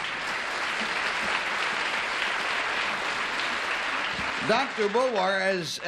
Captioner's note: applause